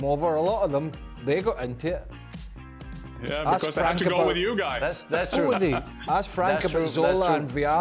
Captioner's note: laughter